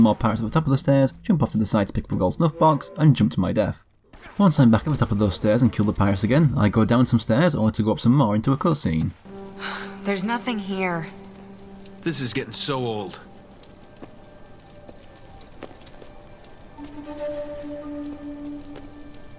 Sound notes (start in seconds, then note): 8.7 in-game audio